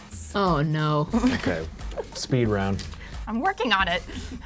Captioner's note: chuckles